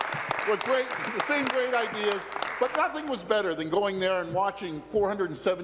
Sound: applause

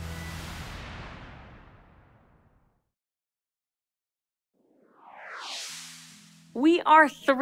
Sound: whoosh sfx

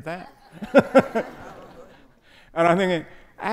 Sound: audience laughing

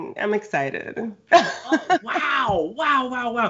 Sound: laughs

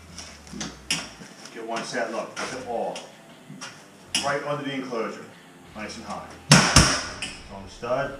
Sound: hammer; hammers

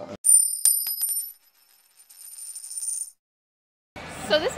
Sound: coin rattling

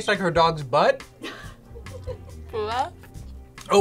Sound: laughs

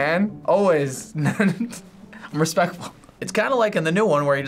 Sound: laughs

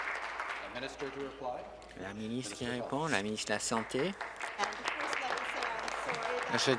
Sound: applause

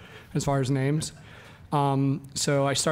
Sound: audience laughs

